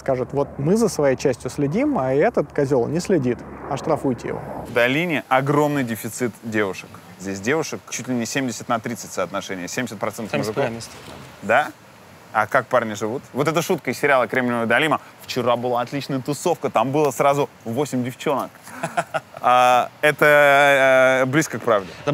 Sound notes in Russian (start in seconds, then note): 18.6 смеётся